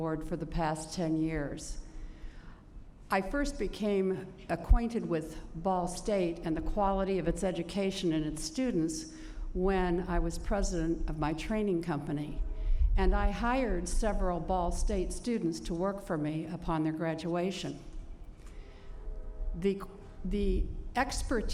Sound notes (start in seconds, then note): none